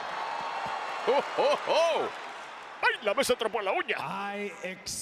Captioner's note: applause